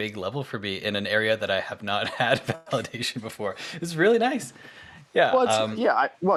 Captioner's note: chuckles